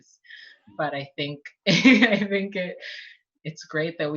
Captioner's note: laughs